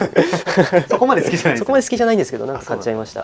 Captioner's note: laughs